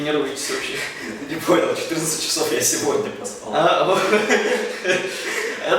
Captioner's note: laughs